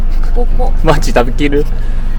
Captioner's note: laughs